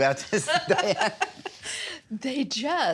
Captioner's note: both laughing